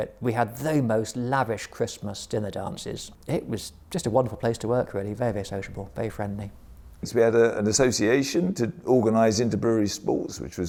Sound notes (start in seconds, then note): none